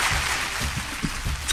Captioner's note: applause